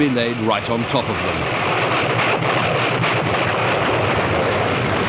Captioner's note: artillery explode